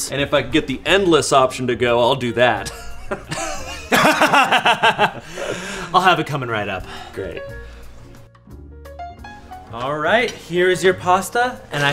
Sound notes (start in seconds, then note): 2.6 fake laugh; 2.6 laughs